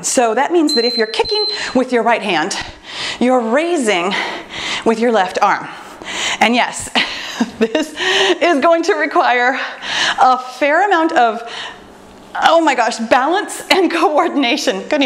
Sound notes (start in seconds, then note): 0.6 timer beeps